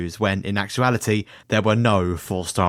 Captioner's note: none